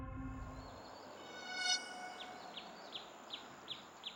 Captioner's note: birds chirping